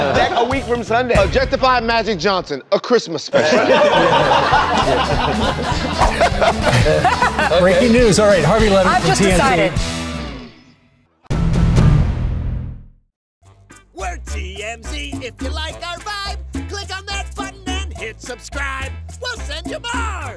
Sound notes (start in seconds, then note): 3.3 laughter